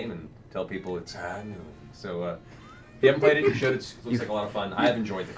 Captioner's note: McCree voice